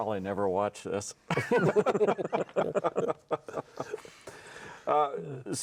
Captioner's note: everyone laughs